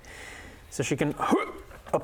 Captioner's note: hrgh